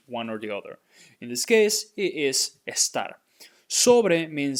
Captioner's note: speaking in Spanish